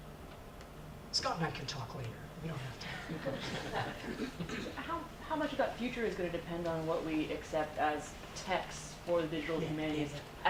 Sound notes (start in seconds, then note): 2.9 audience laughs